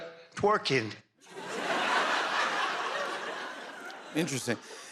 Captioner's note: laughter